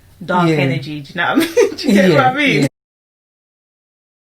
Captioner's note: laughs